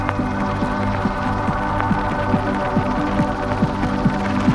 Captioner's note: helicopter sounds